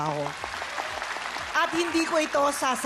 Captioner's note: applause